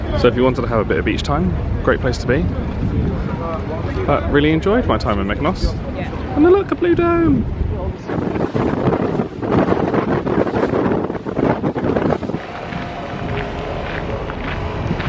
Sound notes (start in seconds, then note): 10.4 wind blowing from the sea